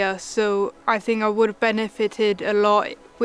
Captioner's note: none